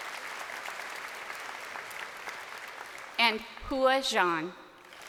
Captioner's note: crowd applauding